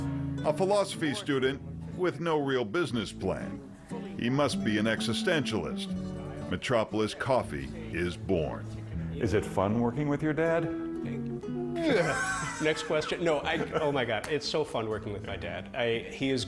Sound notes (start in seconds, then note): 11.8 laughs